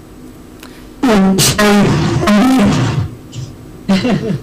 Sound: glitch

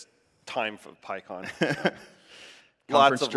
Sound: laughs

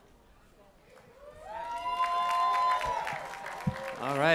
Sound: cheering

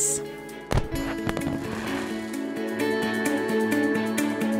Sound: fireworks popping

